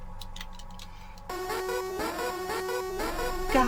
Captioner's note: sirens